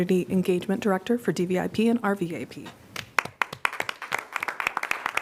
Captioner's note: applause